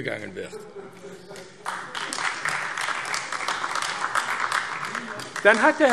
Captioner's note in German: Beifall AfD